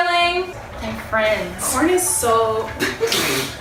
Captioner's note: laughs